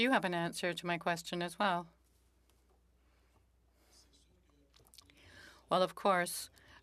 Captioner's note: speaking French